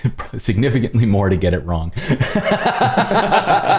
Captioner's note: laughter